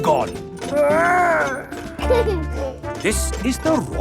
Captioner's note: giggles